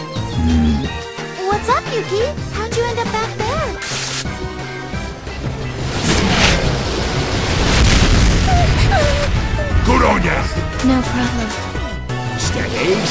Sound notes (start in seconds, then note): 4.8 missile stops; 7.3 another missile crashes into it: BANG!; 8.3 moans